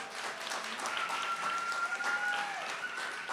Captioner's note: cheering, applause